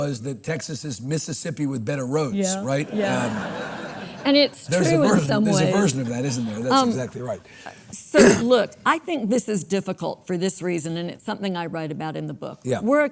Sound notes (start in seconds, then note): 2.5 audience laughs